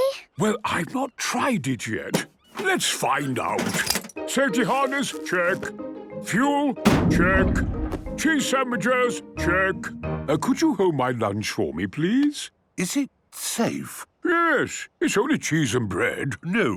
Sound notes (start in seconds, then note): 6.8 bangs